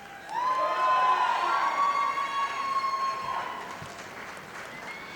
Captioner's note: audience applauding